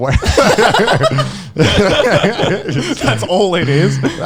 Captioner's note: Conner and Joey laughing